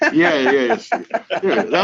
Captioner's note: men laughing